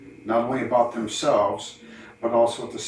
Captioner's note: none